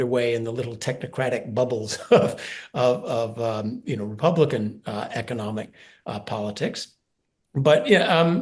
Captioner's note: laugh